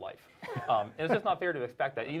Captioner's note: laughing